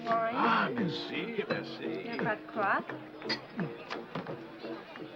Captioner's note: speaking foreign language